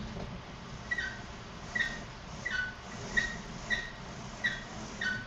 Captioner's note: metal creaking